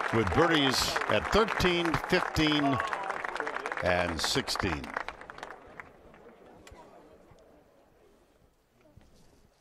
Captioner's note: applause